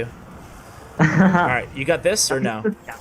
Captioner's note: laughs